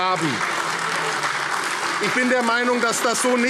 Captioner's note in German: Beifall AfD - Zurufe CDU